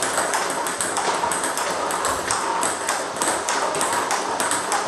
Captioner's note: ball ping pong hitting continues